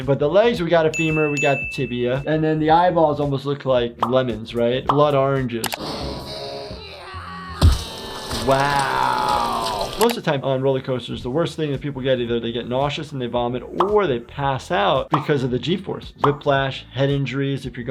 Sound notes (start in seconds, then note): 6.5 Lifty yelling; 7.8 gate grinding